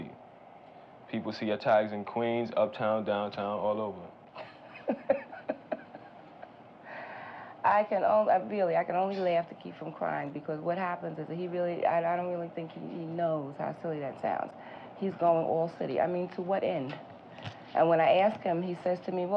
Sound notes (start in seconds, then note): 4.3 woman laughs